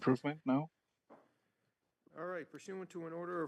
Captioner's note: speaking French